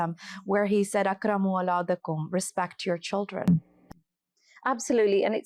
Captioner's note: Arabic